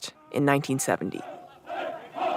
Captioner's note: chanting fades up